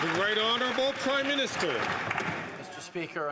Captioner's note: some Applause